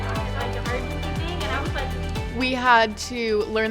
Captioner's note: chatter